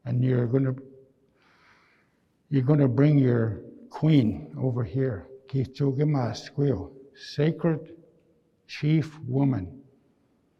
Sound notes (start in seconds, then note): 5.7 speaking in Nêhiyawêwin